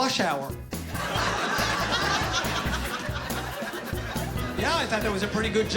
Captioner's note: laughter